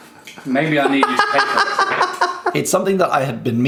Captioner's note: laughing